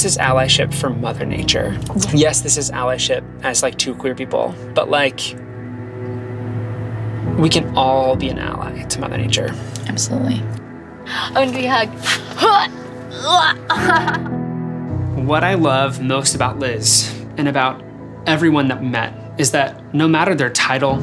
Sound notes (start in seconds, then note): 13.1 groaning; 13.2 laughing